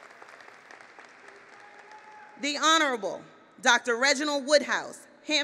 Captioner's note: applause